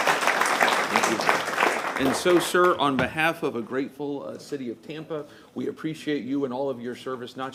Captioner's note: applause